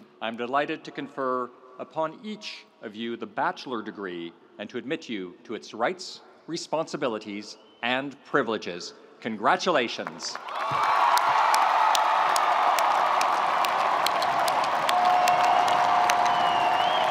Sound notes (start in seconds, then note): 10.0 audience applauding; 10.4 audience cheering